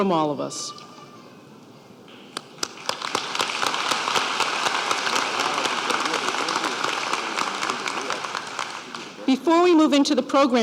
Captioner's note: applause